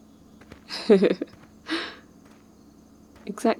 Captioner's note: goofy laugh 2